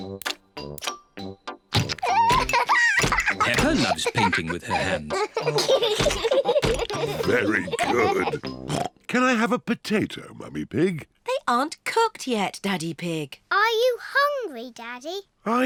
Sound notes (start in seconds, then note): 2.0 laughs; 5.5 both laugh